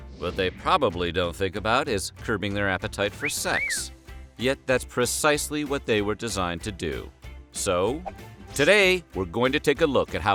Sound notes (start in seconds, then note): 3.1 cat call sound